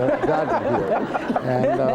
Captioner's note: laughter